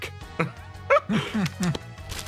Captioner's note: laughs